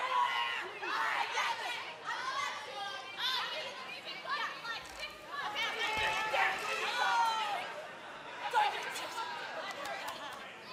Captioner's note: crowd chatter